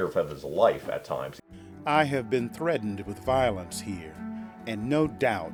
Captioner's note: Dramatic reading of Frederick Douglass excerpt